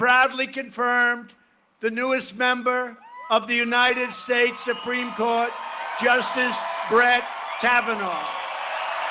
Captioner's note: cheering and applause